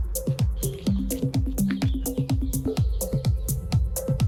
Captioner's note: birds chirping